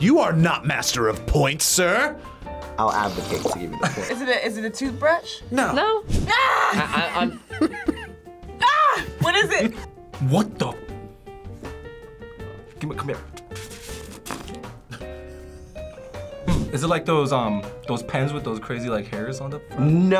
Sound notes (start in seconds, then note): 8.6 screams